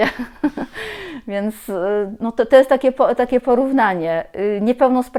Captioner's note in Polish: śmiech